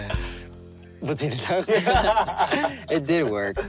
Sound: laughing

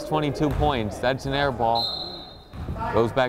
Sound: whistle blows

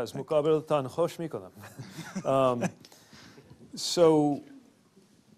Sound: speaking Persian

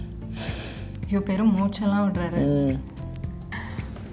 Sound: takes a deep breath

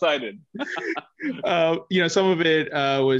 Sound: chuckles

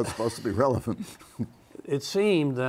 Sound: laughter

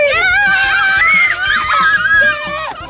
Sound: scream in excitement

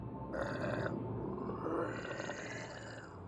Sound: snarling

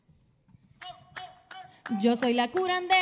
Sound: hands clapping; singing in Spanish

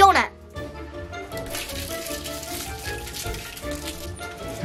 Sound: crinkle sounds

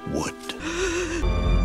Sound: gasp

